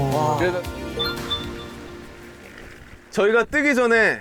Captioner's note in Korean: 띠링